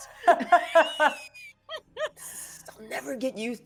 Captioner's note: people laughing